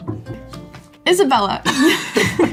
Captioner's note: Isabella laughs; Mason laughs